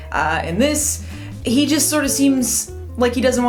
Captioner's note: none